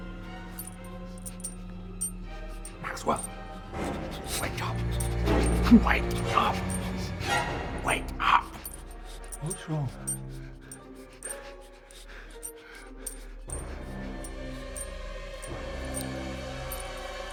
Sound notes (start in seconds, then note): 12.3 chains rattling